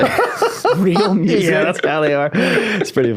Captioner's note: laughing